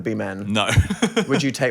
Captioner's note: laughing